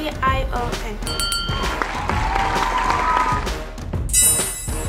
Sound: applause

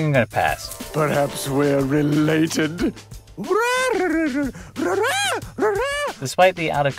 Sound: weird peacock sounds

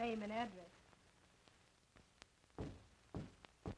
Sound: knocking

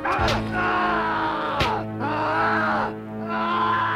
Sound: man screaming

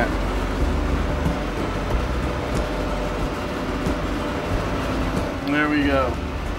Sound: engine hamming

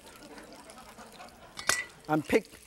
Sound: audience laughs

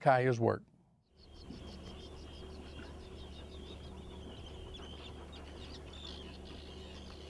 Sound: birds chirping

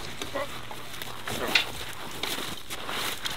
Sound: grunting

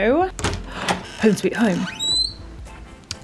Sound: gasps

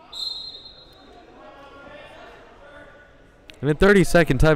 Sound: whistle blowing

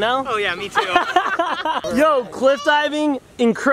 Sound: laughing

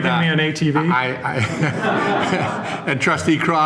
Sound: laughter

